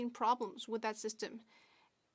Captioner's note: speaking French